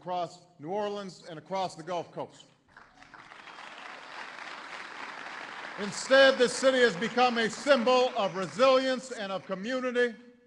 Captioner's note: applause